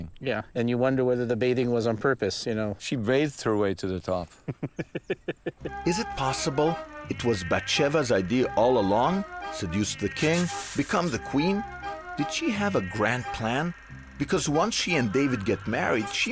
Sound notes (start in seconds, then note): 4.4 man in hat chuckles